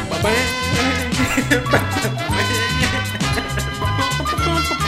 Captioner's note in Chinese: 偷笑